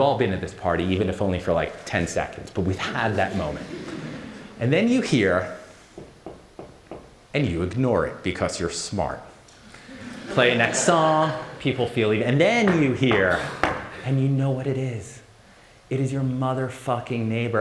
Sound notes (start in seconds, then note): 5.9 knock knock knock; 13.6 louder knock knock knock